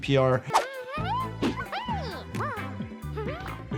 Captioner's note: giggles babbles